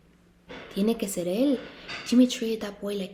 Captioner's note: Spanish